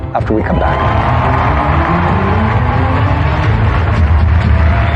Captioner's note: cheering and applause